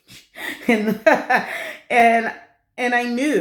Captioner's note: laughter